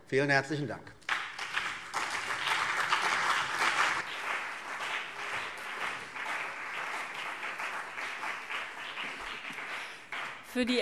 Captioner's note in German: Beifall CDU und BÜNDNIS 90/DIE GRÜNEN